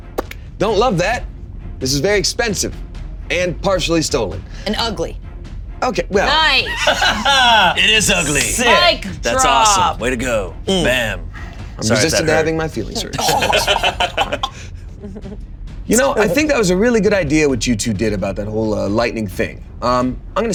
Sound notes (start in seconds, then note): 6.6 laughs; 13.6 all laughing